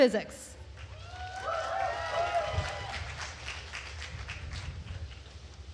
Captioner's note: attendees cheering and applauding